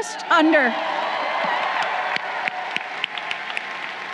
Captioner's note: crowd cheering